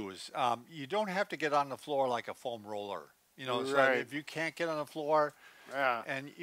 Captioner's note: none